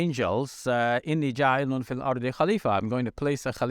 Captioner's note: speaks in foreign language